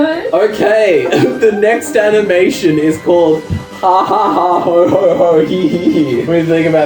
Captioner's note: cracks up